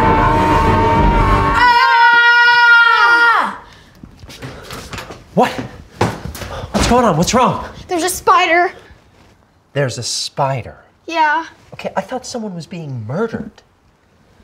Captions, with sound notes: (screams continue) (kids screaming) - What? What's going on? What's wrong? - There's a spider. - There's a spider? - Yeah. - Okay, I thought someone was being murdered.